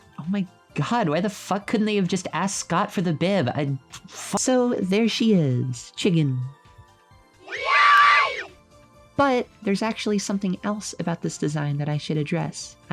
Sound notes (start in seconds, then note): 7.4 children cheering; 7.4 children cheering reversed